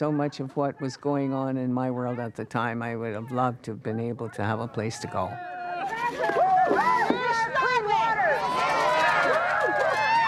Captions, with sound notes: what was going on in my world at the time. I would've loved to have been able to have a place to go. (crowd whooping)